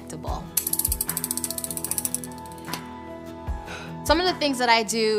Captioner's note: injection pen clicking